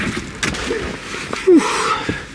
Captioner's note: exhales